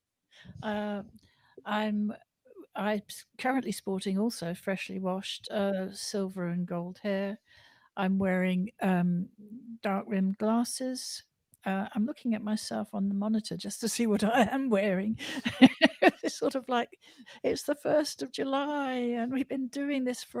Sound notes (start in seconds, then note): 15.2 laughter